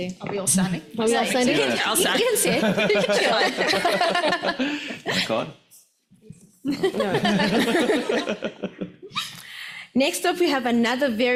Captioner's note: laughs